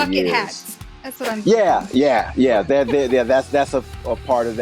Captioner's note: laughs